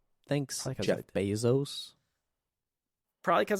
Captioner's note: silence